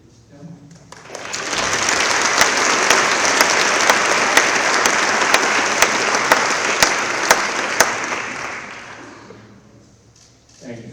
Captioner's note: applause